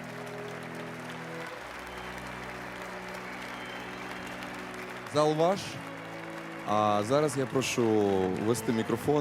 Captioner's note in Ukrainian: оплески